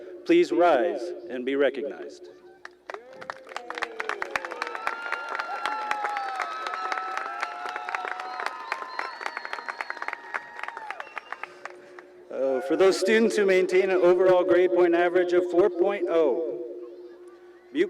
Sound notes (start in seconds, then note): 2.6 cheering and applause